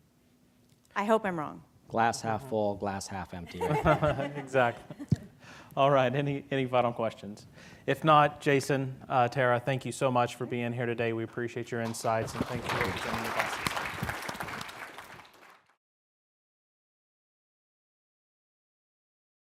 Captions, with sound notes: I hope I'm wrong. - Glass half-full, glass half-empty, right? (laughing) - Exactly. Alright, any final questions? If not, Jason, Terra, thank you so much for being here today. We appreciate your insights. (clapping)